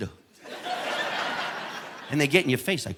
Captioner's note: audience laughing